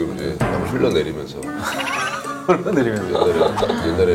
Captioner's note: haha